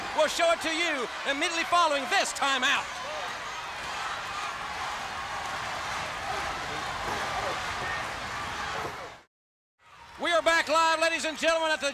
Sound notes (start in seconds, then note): 3.9 crowd cheering; 3.9 wrestlers grunting